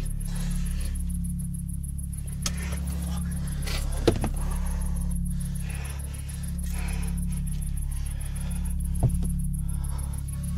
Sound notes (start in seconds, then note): 6.4 heavy breathing